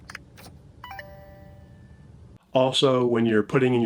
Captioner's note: lock rings melodically